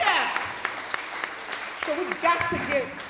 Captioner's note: applause